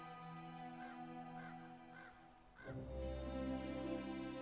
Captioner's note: crow cawing; soft music